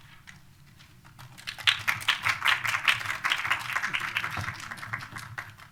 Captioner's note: applause